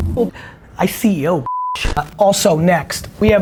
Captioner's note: beep